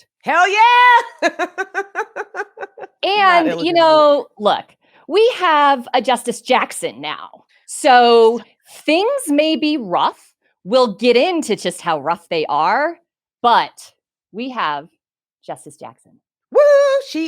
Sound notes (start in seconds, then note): 1.0 laughs; 9.2 speaks faintly